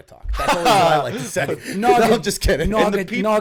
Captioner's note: laughter